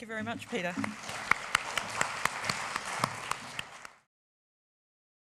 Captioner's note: audience applause